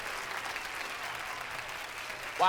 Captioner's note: applause